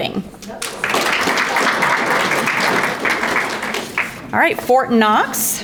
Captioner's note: audience applauding